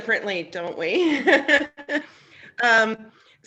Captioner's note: chuckles